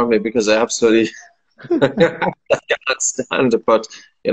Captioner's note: laughing